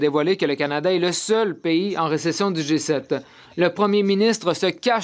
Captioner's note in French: voix de l'interprète